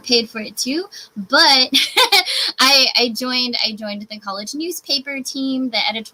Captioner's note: laughs